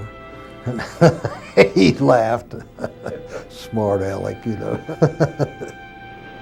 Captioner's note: laughs